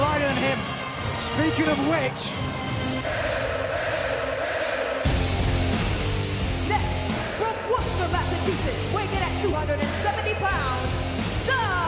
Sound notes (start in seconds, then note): 4.9 crowd cheering